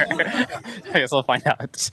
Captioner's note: laughter